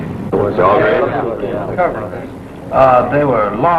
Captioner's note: men agreeing